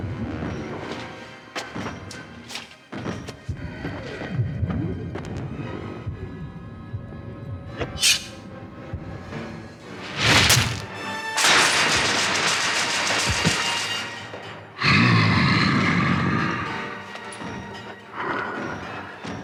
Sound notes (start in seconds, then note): 7.9 claws clink; 9.7 dramatic music; 14.7 Donald growls